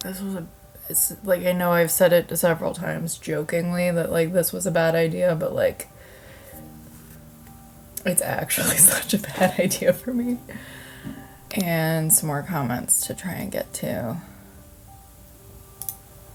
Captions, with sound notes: This was a... Like I know I've said it several times jokingly that like this was a bad idea, but like it's actually such a bad idea for me. (laughs) And some more comments to try and get to.